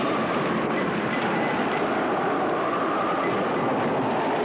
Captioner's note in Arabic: تصفيق الرعد